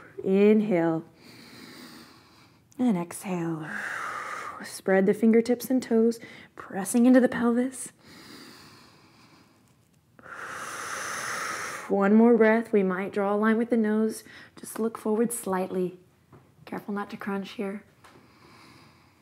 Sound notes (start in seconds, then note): 0.0 exhales; 8.3 deep breath